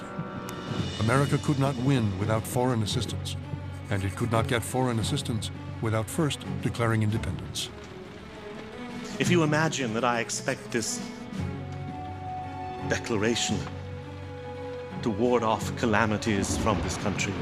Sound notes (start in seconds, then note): none